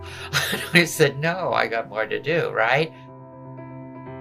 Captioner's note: laughing